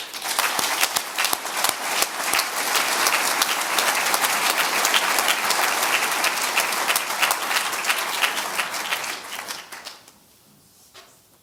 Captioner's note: audience applause